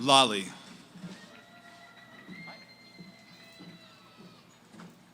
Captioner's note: cheering; background conversations